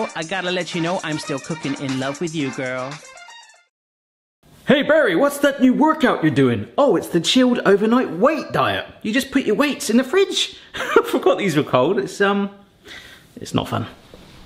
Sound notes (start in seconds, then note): 10.9 chuckling